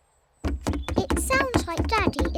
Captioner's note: pounding trotters